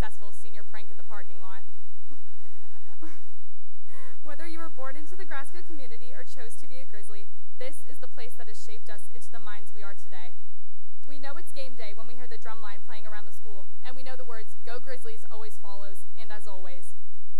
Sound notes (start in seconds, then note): 2.4 laughter